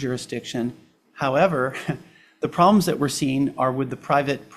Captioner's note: chuckles